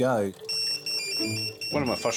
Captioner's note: pager beeps